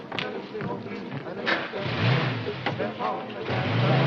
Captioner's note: engine revs